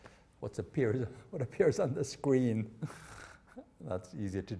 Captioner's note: chuckling